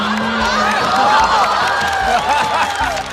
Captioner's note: laughter